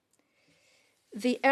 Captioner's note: speaking in French